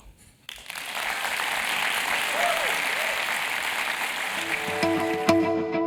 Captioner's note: applause